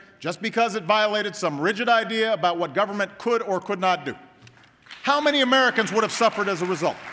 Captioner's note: applause